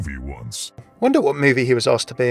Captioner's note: voiceover